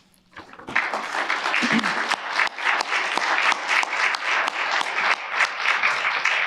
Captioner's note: applause